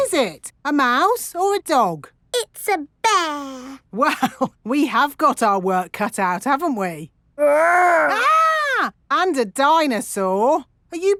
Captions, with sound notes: What is it? A mouse or a dog? It's a bear! (CHUCKLING) Well, we have got our work cut out, haven't we? -Grr! -(MOCK SCREAMING) And a dinosaur!